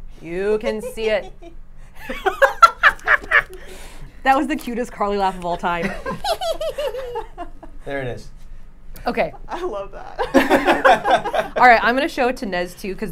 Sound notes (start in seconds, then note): 2.0 all laughing